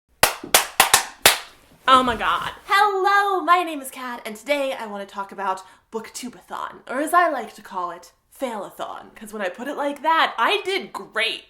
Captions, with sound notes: *claps* Oh my God. Hello! My name is Kat and today I want to talk about BookTube-a-Thon. Or as I like to call it, Fail-a-Thon. 'Cause when I put it like that, I did great!